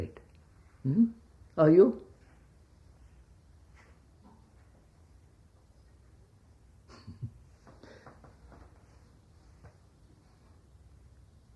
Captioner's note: laughs